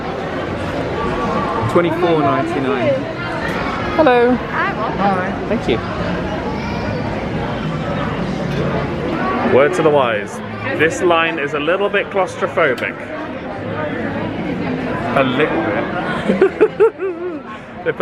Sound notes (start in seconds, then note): 13.4 indistinct chatters; 16.1 laughing